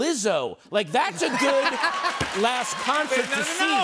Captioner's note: laughter and applause